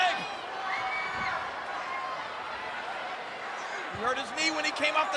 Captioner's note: crowd yelling